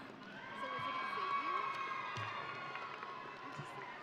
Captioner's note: audience cheering